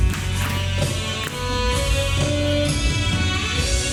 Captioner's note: hands tapping